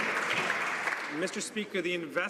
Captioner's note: some Applause